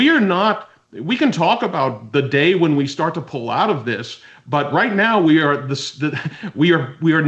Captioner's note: laughs